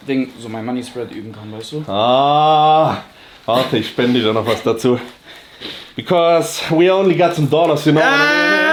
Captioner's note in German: schnauben